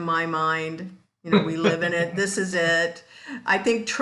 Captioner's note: laughs